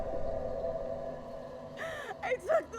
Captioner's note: crying